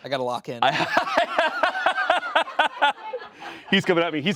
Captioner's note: laughing